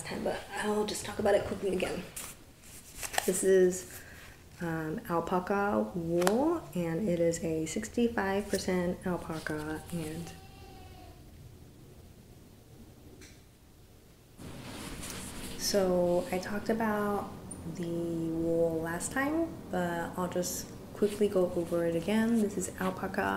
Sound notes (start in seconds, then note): 7.5 baby crying noise in background